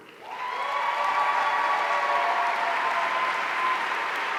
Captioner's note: audience cheering